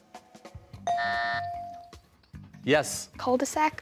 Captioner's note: rings bell, buzzer